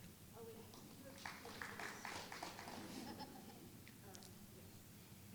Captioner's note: applause